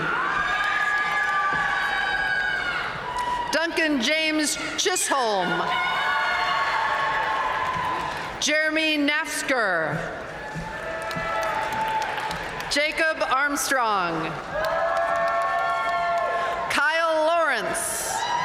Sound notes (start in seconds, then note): 0.1 audience cheering and applauding; 5.9 audience cheering and applauding; 10.5 audience cheering and applauding; 14.5 audience cheering and applauding; 18.2 audience cheering and applauding